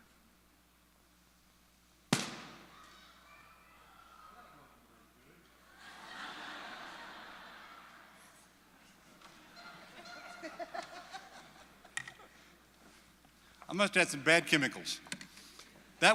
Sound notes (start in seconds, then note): 2.2 not so loud pop and laughter